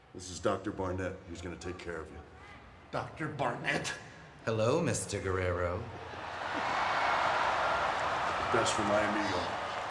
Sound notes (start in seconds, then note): 6.0 crowd cheering